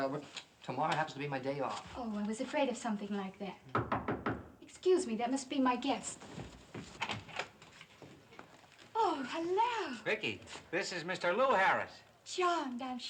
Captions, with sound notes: - Tomorrow is my day off. -I was afraid of that. [KNOCKING] Excuse me, that must be my guest. - This is Lew Harris. -Charmed, I'm sure.